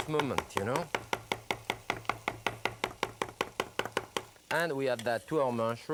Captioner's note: knife thudding